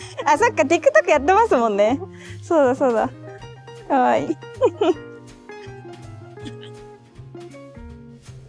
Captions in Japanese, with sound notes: TikTok、やっていますもんね。 そうだ、そうだ。 可愛い。あ、それ好きかも。いいね。 [笑い]